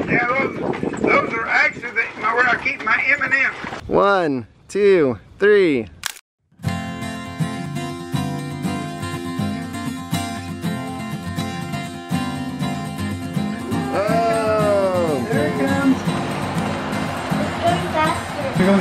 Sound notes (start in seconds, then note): 6.0 camera snaps; 6.8 lively guitar music